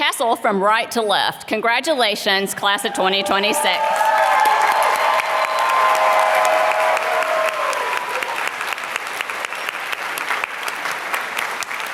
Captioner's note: applause